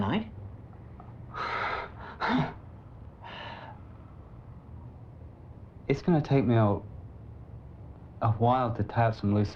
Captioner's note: gasps